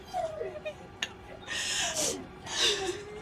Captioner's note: crying